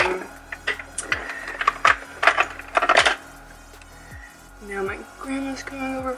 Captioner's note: pop music; clanging of objects